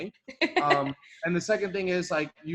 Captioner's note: laughs